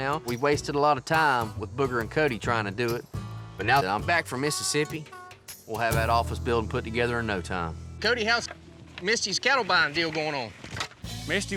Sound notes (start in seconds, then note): none